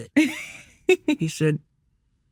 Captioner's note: laughing